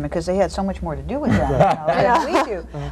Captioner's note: everyone laughs